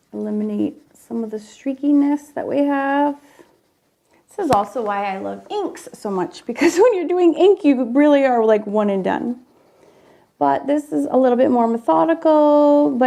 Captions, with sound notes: eliminate some of the streakiness that we have. This is also why I love inks so much, because (laughs) when you're doing ink, you really are like one and done. But this is a little bit more methodical,